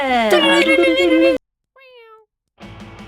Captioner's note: meow!